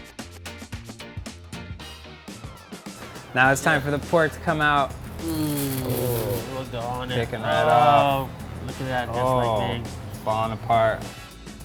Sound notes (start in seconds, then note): 0.1 upbeat music; 5.1 both groan